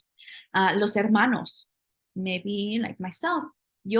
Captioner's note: spanish